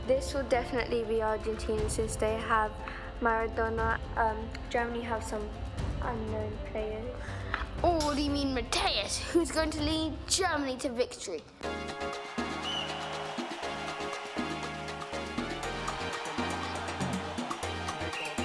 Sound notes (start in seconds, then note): 12.3 whistle